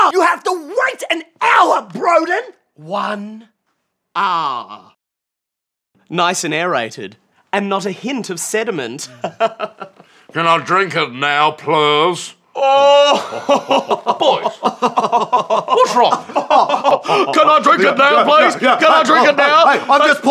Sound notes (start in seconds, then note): 9.1 chuckles; 13.0 performative laughter